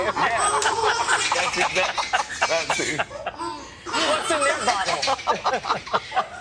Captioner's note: laughter